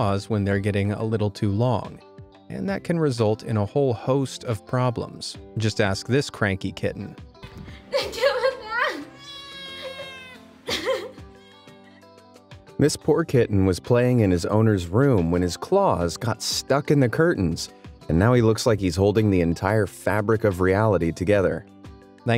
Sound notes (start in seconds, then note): 9.0 cat meows; 10.6 woman laughing